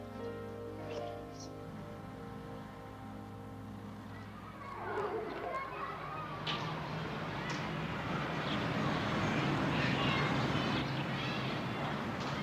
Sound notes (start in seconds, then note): 4.4 background din